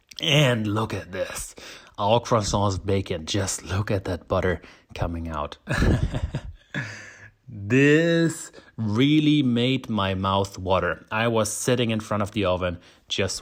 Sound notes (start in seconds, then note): 5.7 laughs